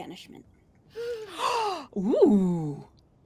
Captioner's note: gasps